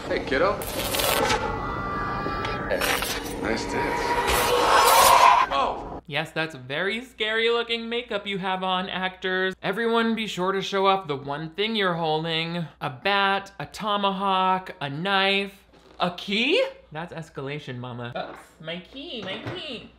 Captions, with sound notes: Hey kiddo. (electric current buzzing) Hey, nice tits. (iron chafing) - Whoa! - Yes, that's very scary looking makeup you have on, actors. - Yes, that's very scary looking makeup you have on, actors. Everyone be sure to show off the one thing you're holding. A bat, a Tomahawk, a knife, a KEY???? That's escalation mama. Oops, my key, my key.